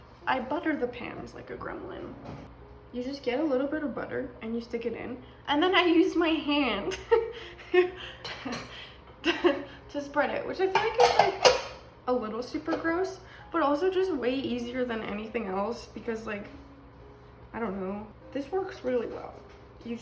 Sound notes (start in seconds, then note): 8.2 laughs